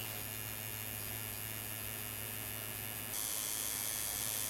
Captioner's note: tattoo gun buzzes